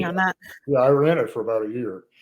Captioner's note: laughs